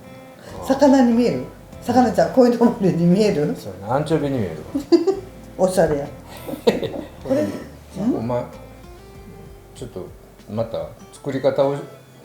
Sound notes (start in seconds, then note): 7.4 laughs